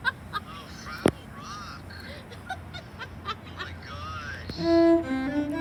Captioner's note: cackles; laughs more